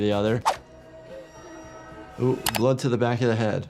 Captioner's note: swooshing music; keyboard clacking